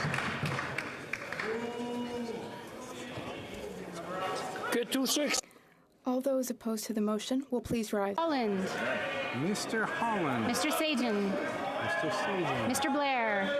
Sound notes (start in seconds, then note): 1.5 some Applause